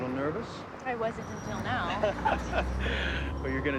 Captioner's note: both chuckle